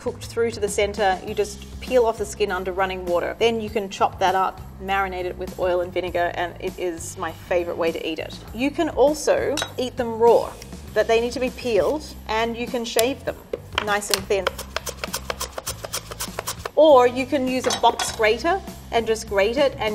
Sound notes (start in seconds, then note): 14.4 beetroot grinding on mandolin